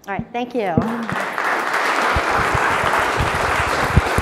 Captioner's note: applauding